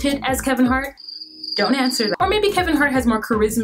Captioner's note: crickets chirping